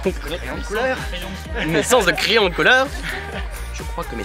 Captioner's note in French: rires en fond